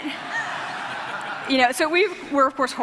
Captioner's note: laughter